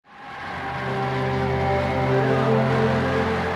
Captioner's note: cheering